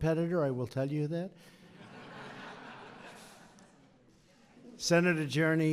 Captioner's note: laughter